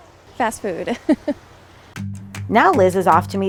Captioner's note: laughs; whimsical upbeat music